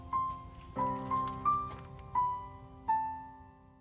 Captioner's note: footsteps approaching door